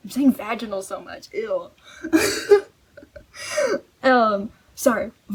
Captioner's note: laughs